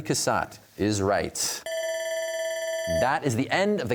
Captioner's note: bell ringing